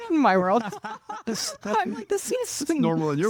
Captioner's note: laughing